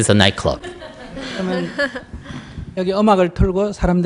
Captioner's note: audience laughter